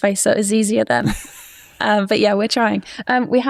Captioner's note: laughs